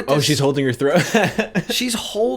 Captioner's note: chuckle